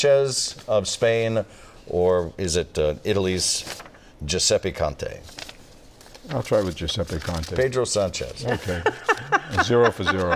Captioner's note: laughter